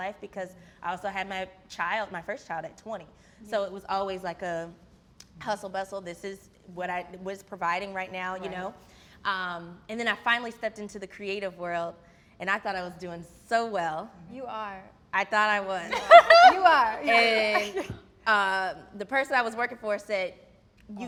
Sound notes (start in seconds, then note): 17.0 laughs